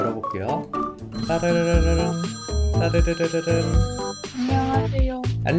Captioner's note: phone ringing